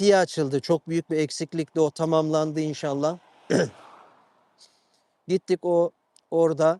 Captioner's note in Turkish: boğazını temizler